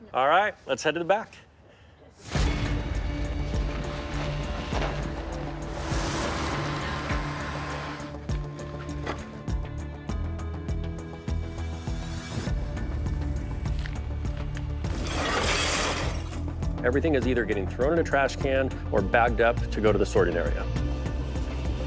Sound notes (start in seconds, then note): 2.1 tense music; 6.5 engine revving